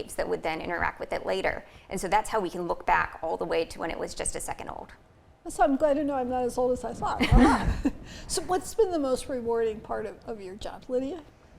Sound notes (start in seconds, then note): 7.2 laughing